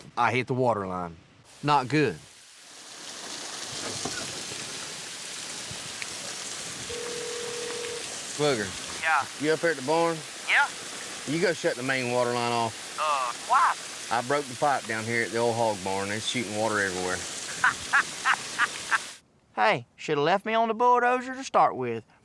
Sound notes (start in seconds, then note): 2.5 water gushing; 6.9 dials phone, phone rings; 17.4 laughs on phone